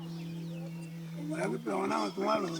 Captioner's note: speaking in local language